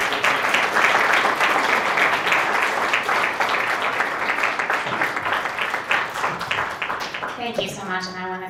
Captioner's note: applause